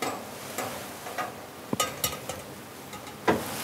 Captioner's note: soft metal clink